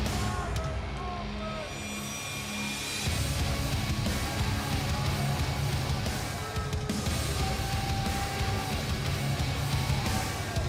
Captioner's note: crowd cheering